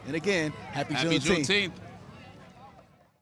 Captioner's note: people chattering